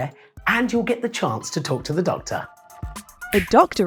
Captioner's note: clicks fingers